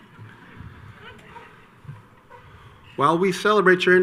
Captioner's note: audience laughs